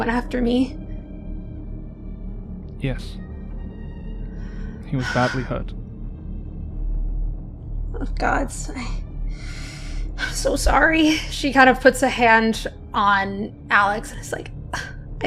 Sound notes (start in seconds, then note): 9.4 exhales